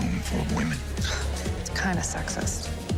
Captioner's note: scoffs